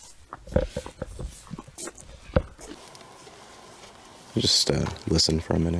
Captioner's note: camera clicking